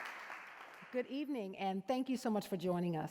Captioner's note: applause